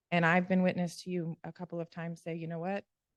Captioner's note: none